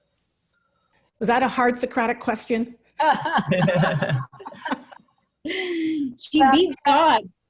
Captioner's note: laughter